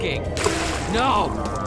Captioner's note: splash